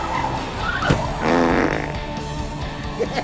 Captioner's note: pbblllttt